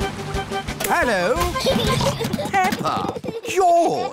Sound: children giggling

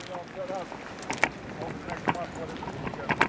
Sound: foot steps

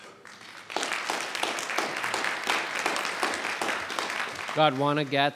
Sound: audience applauding

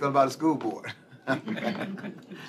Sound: laughter

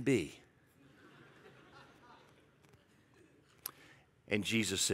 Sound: congregation laughs

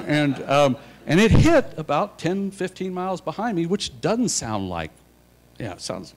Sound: laughter

